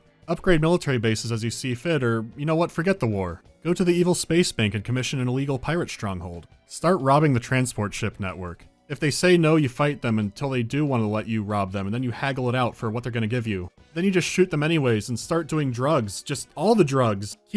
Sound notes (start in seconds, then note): none